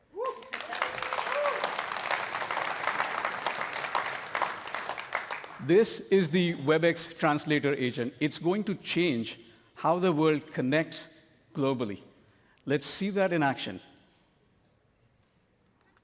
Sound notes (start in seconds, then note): 5.7 cheering and applause